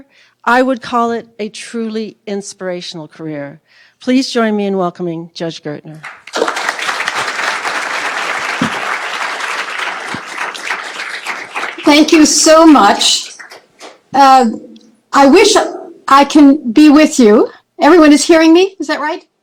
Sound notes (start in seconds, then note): 6.0 applause